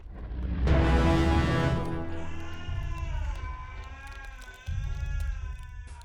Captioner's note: abrupt sour note; screaming in agony from inside tank